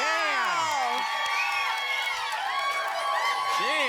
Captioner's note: applause and cheering cont